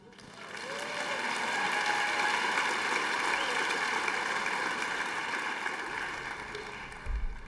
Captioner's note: applause